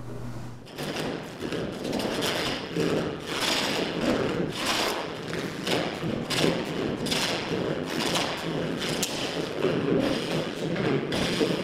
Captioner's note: scraping sound